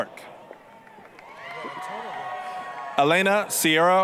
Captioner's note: applause, cheering